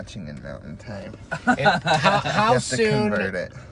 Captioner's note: laughs